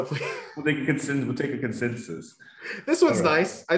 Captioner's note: laughs